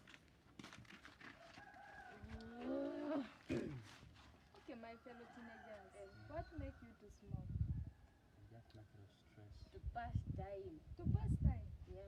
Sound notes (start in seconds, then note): 3.4 clears throat; 3.5 grunts